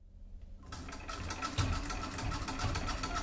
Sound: treadle sewing machine ASMR

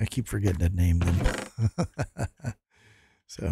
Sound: laughs

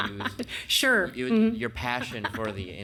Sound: laughs

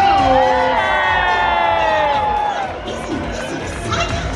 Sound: guests cheer

